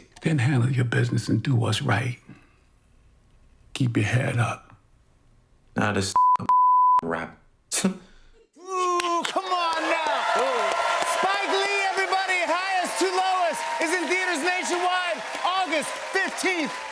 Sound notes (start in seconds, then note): 7.8 scoffs; 9.5 cheers and applause